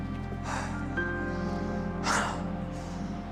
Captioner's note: sighs